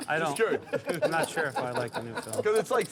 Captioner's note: laughter